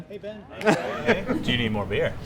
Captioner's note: laughs